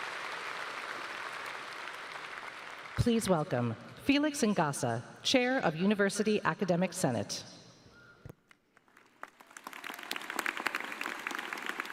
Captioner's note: applause